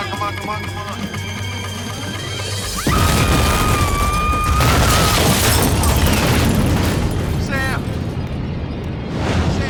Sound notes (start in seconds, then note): 3.3 suspenseful music; 4.4 explosions; 4.9 screaming